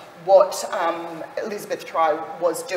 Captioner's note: none